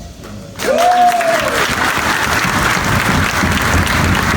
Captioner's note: audience applauds